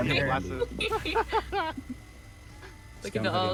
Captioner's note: laughing